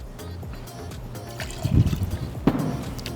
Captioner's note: liquid pouring; bottle clunking